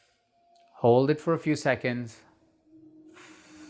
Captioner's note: breathes out